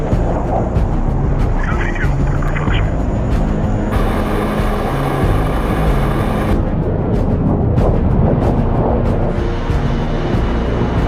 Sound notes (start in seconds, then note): 1.9 people chattering on radio